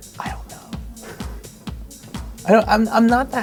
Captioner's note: whisper